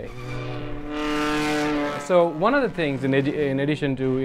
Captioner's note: engine running